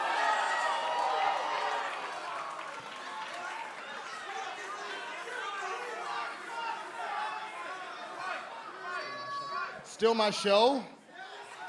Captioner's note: crowd chatter